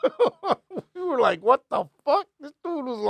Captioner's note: laughing